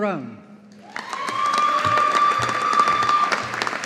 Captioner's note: audience applauding